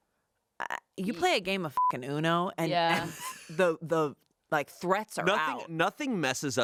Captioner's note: beep